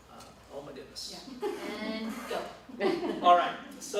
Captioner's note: laughter